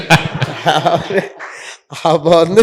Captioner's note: laughter